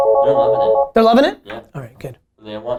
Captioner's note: phone rings